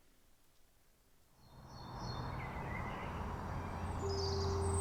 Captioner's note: birds chirping